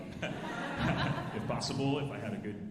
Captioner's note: alumni laughing